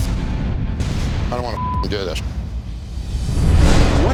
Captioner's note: beep